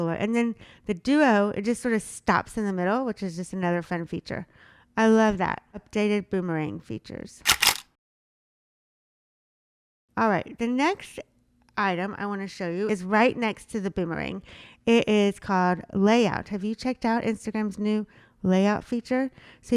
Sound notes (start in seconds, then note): 7.4 camera shuttering